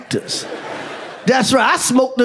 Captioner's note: audience laughs